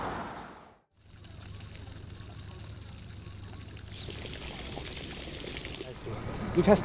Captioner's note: crickets chirping, water trickling